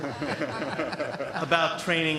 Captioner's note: laughter